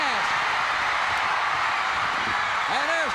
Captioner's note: crowd cheers